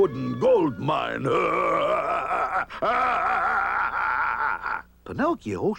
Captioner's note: sninister laughing